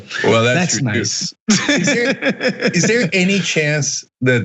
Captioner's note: laugh